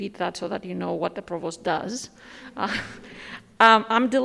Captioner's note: chuckles